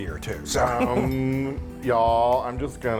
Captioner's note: laugh